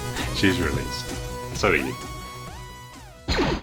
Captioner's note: laser firing